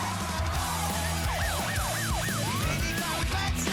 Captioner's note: screaming, tires squealing; siren blaring and tooting